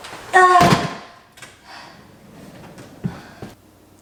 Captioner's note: banging